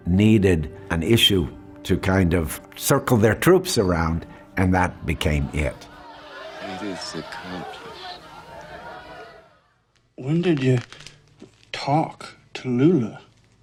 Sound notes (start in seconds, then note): 8.6 crowd shouting